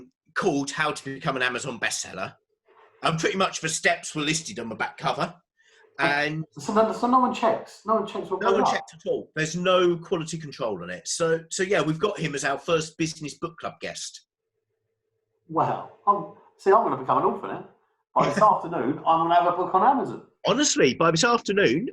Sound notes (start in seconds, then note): 18.7 murmurs